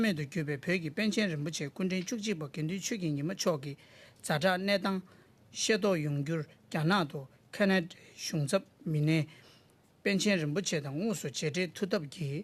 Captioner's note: speaking Alternate Language